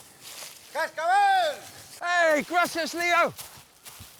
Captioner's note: ranger yells in foreign language